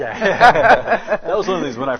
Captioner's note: all laugh